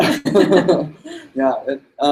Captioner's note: laughs